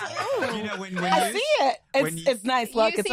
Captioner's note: laughter